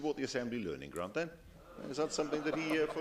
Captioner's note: laughter